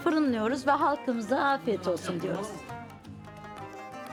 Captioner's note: speaking Turkish